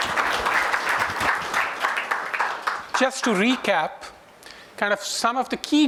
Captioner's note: applause